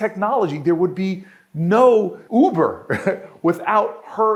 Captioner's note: laughs